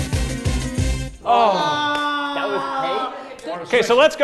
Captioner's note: everyone groans